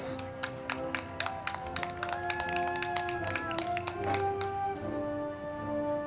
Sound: crowd clapping; band music

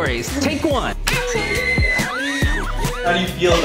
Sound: kids screaming

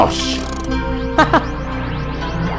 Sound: laughter

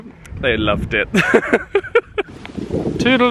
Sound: laughs

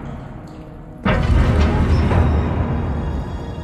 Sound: mechanism moving

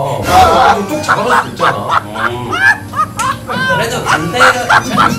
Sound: laughter

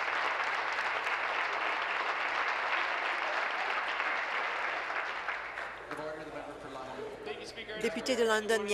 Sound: applause

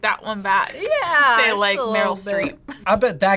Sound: laughs

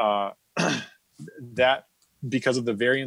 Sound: clears throat

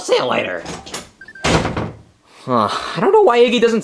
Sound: door bangs; door clicks

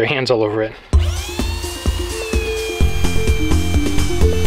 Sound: sander whirring

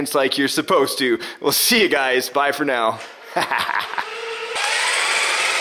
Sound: laughing

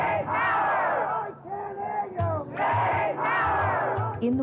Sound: chanting

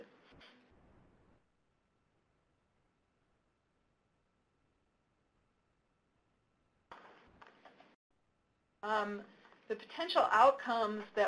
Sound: pause

